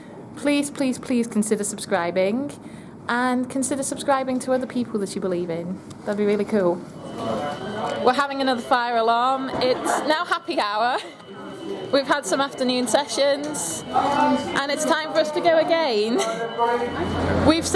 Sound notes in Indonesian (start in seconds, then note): 7.5 Sirene berbunyi